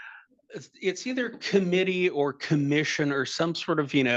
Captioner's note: attendees laughing and chattering